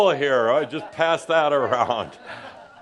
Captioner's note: laughter